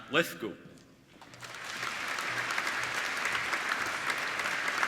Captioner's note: applauding